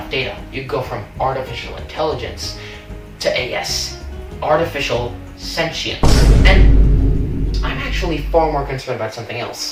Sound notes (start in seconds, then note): 6.0 boom